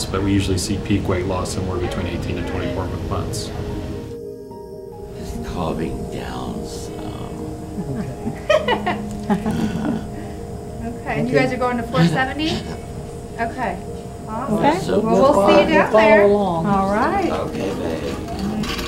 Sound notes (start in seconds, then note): 8.6 laughing